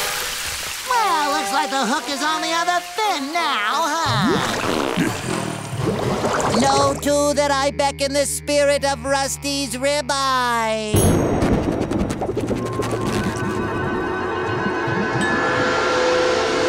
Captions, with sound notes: Well, looks like the hook is on the other fin now, huh? Know, too, that I beckon the spirit of Rusty's Rib-Eye! [thundering]